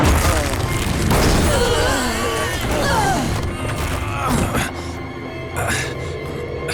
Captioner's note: groaning